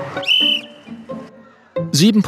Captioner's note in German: Pfiff